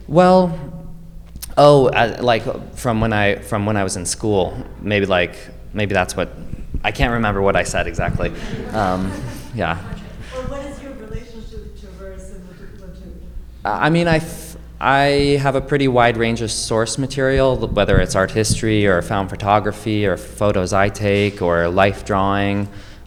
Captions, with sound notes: Well, oh, like from when I was in school, maybe that's what, I can't remember what I said exactly. Yeah. Well, what is your relationship to (speaking faintly)? I mean, I have a pretty wide range of source material, whether it's art history, or found photography, or photos I take, or life drawing.